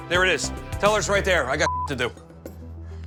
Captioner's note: beep